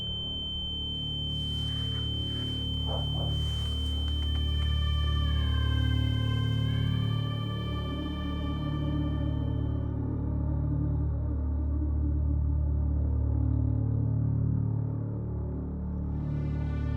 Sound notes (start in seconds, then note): none